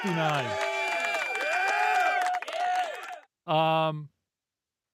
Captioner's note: audience cheering